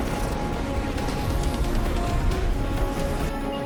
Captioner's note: gunshot